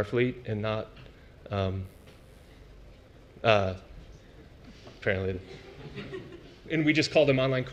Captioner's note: laugh